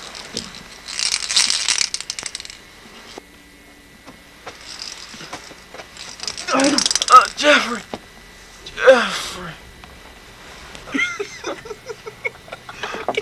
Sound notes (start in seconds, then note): 0.0 rattle noises; 10.8 laughter